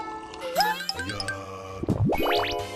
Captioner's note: choked on it